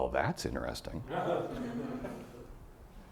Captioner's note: audience laughing